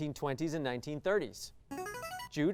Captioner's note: signaling device tone